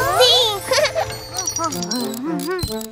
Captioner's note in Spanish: Risas